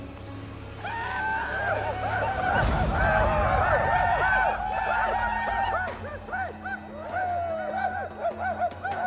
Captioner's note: whooping, shouting